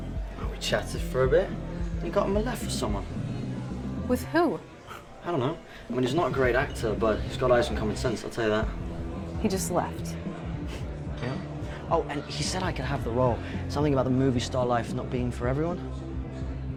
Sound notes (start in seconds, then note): 10.9 scoffs